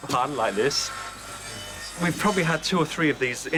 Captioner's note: machine whirring